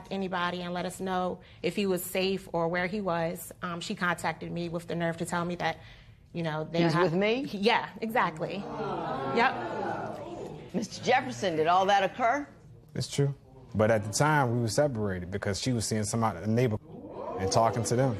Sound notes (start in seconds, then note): 8.7 spectators exclaiming; 16.9 spectators murmur